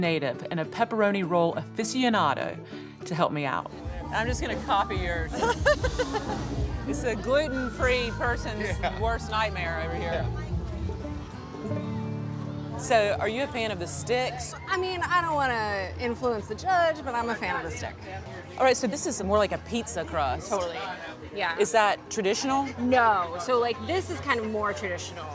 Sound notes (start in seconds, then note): 5.3 laughing